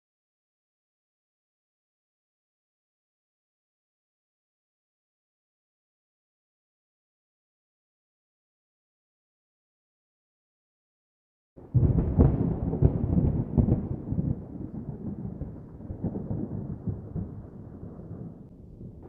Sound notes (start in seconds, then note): 11.6 thunder